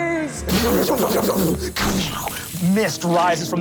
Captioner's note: making explosion sounds